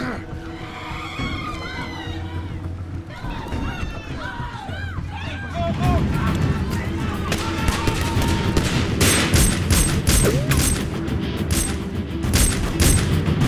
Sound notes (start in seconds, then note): 0.2 Jack grunts; 1.2 people screaming